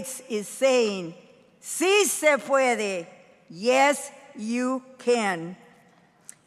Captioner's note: speaking in foreign language